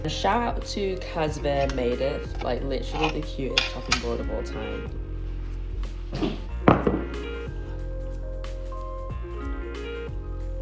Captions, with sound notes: A shout out to Cause bah Made It, like literally the cutest chopping board of all time. (bowls clank)